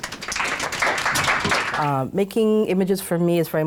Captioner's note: audience clapping